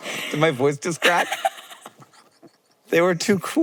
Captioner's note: both laughing; Maya laughing